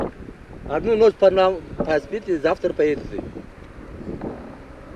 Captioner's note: man asks in Tajik